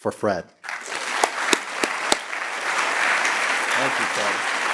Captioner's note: all clapping